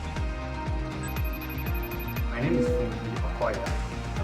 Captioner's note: phone rings